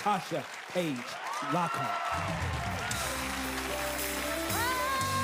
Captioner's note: audience cheers and applause